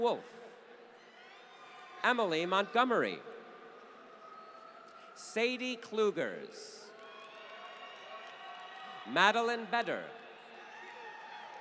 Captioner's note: applause; applause